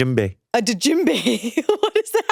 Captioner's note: chuckles